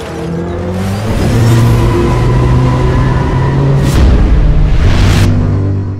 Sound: engine accelerating; engine accelerating harder

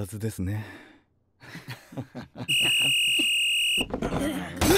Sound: Charismatics laugh

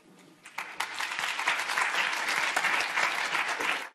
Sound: audience applauding

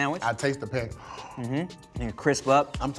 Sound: gasps

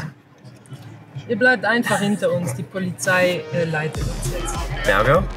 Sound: speaking in German

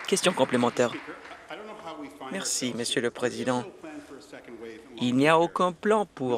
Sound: some Applause

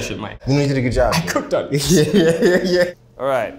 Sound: both laughing

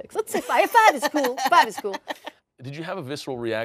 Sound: laughs

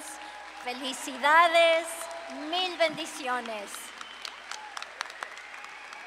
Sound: audience cheering; speaking Spanish

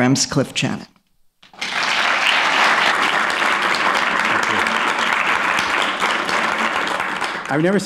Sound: applause

